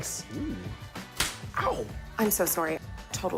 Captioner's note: thwack!